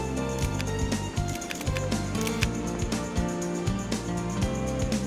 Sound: camera clicking

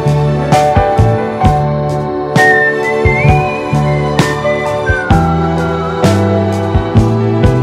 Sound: whistling

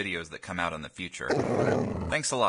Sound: growl

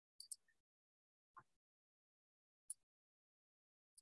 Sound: mouse clicking

